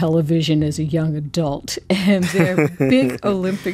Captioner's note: laughter